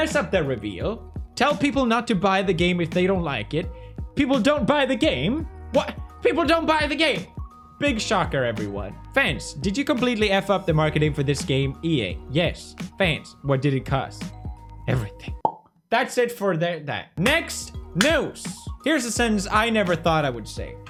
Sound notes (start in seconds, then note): 15.4 poppy pops again; 18.0 meme review clap